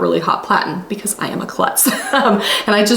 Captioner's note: laughing